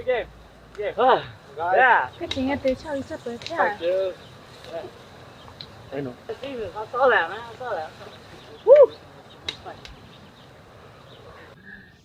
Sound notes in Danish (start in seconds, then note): 6.8 chatter